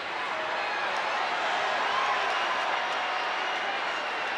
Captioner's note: crowd cheers